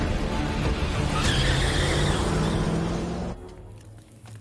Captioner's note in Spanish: Chirrido de llantas